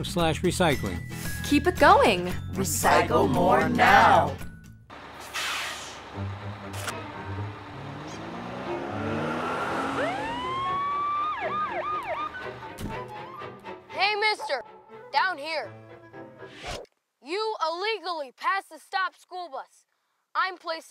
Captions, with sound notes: at 312=- 1. >> keep it going. >> recycle more. Now. [Siren] >> hey, Mr. Down here.